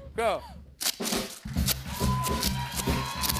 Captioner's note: cheers and applause